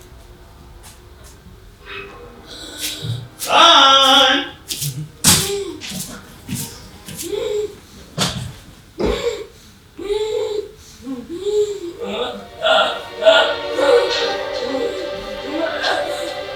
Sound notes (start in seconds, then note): 7.2 gasping